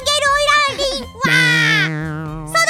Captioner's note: stutter